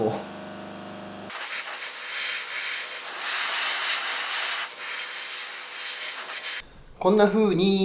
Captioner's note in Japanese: 塗装音